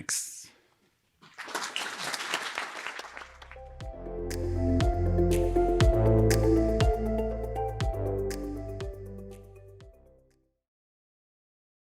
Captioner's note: applause